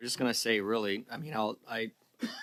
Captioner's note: laughter